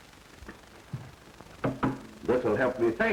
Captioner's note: tap